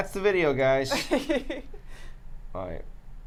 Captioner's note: laughs